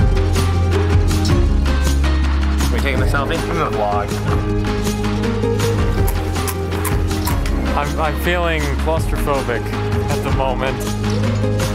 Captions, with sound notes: - Are we taking a selfie? - I'm gonna blog. (crunching) - I'm feeling claustrophobic at the moment.